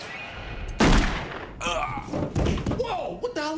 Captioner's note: gunshot